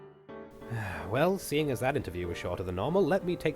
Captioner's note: slight Pause; sigh